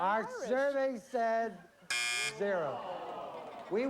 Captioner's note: buzzer